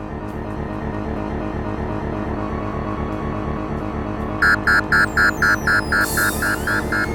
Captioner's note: intrusion Alarm